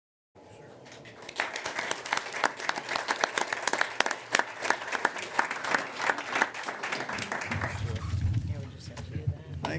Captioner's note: applause